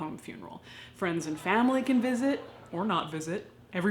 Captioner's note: people chattering